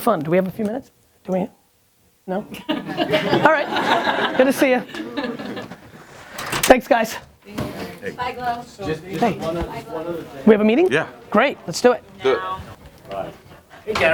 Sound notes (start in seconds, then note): 2.6 crowd laughs; 7.5 people chat